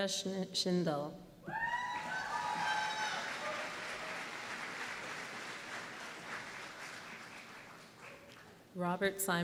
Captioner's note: applause